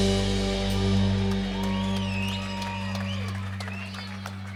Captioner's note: people cheering